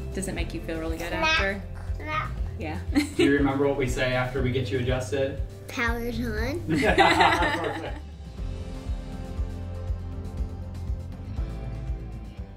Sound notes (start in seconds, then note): 6.6 laughs; 8.8 upbeat music